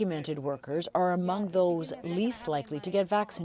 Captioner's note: speaking Foreign Language